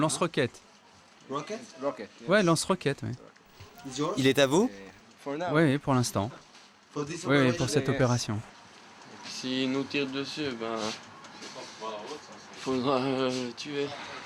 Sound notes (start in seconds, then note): 9.2 French spoken audio